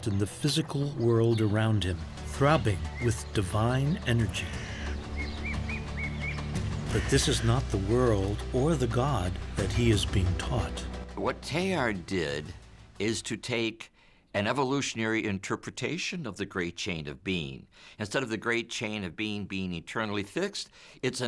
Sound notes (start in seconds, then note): 4.8 birds chirping; 4.8 suspenseful music continues